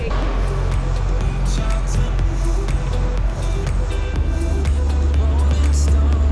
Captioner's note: boat engine revving